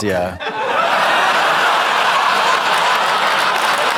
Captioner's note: audience laughs